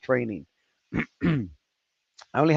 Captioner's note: clears throat